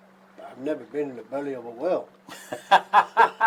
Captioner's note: giggles